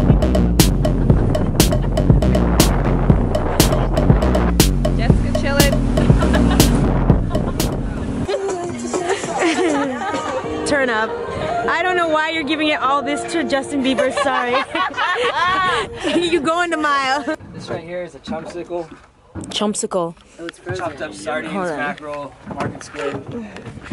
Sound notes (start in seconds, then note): 13.9 laughter